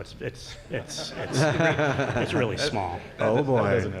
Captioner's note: laughter